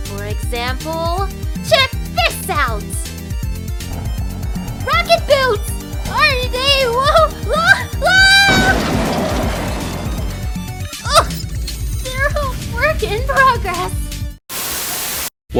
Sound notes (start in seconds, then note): 9.0 crashing; 14.5 Static